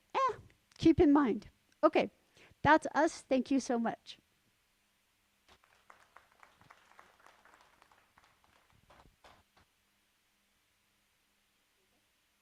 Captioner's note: faint clapping, slightly picked up by audio